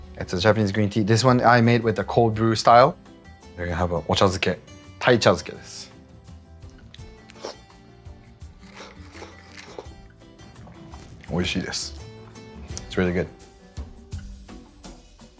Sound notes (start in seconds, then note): 6.6 slurping; 11.4 speaking foreign language